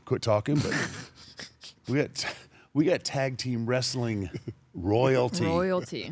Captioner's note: laugh